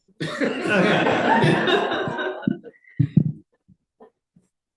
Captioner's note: audience laughs